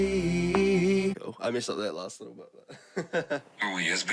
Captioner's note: music stops; laughs